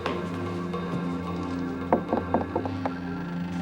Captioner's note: soft knocking; dramatic music